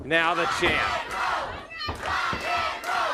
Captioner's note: crowd cheering